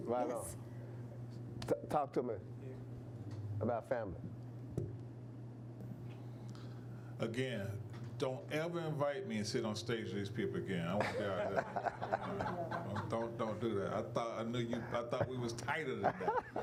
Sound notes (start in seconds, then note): 11.0 all laughing